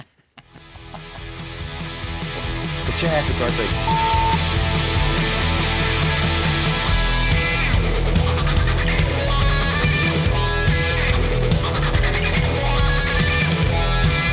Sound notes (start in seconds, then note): 0.0 laughs; 0.3 upbeat music; 3.8 beep; 4.3 upbeat music